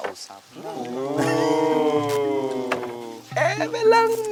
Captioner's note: campers ooh-ing